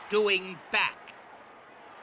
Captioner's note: crowd cheering